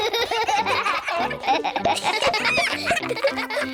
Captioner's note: all giggle